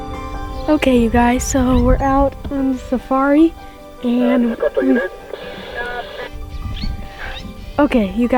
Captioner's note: two way radio sounds